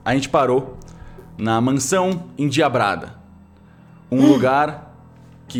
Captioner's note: gasp